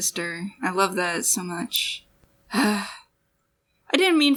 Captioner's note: sigh